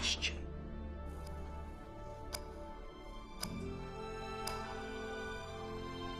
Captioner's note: TICKlNG